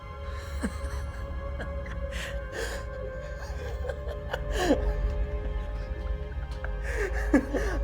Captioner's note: dramatic ominous music; laughs